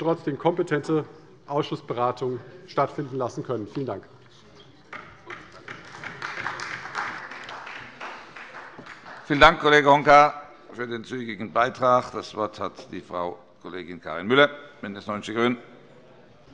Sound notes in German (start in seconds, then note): 5.4 Beifall bei der CDU